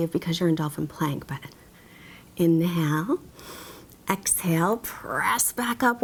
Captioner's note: inhales deeply